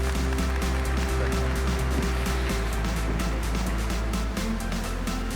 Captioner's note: applause